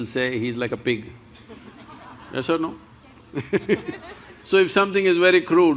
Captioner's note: laughs